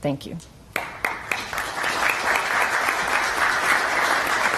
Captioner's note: applause